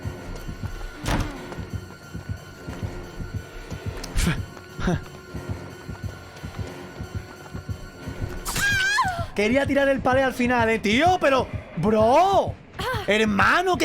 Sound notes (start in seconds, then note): 4.8 chuckles in Spanish